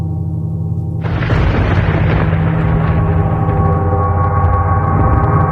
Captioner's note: lightning crashes